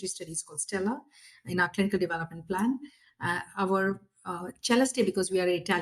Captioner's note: italian pronunciation